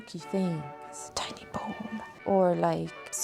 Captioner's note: whispers